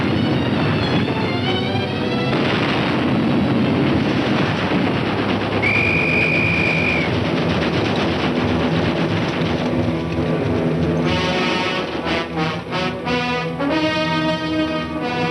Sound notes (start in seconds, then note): 5.6 blowing whistle; 7.5 tense music